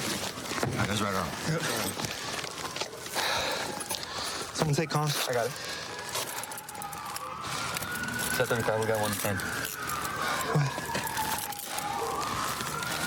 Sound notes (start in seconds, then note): 2.0 sirens in distance; 9.4 sirens grow louder